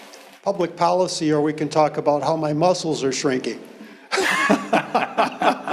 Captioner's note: laughs